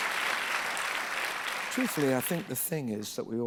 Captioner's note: applause